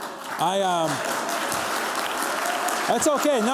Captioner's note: applause